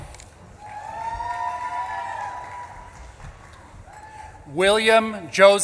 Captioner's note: audience claps and cheers